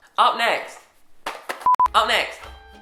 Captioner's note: beeps